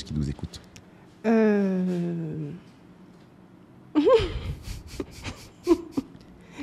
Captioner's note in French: Soupirs & rires